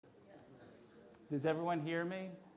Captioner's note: audience chattering